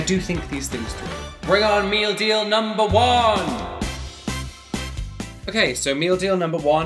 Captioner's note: voice echoing